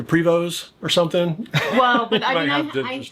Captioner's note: laughs